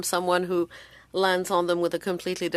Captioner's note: speaking French